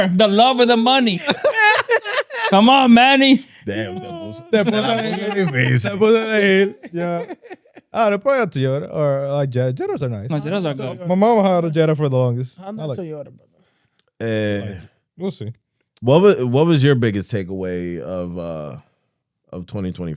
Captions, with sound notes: The love of the money. Come on, Manny. (Speaking In Foreign Language) We'll see. What was your biggest takeaway of 2025?